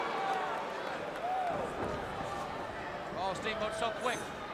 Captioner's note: crowd chatter